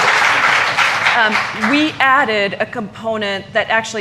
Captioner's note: applause